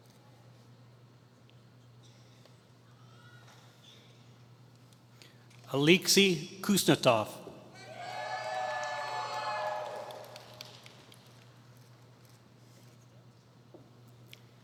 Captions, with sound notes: Alexey Kuznetsov [Applause]